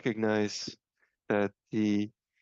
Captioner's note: speaking French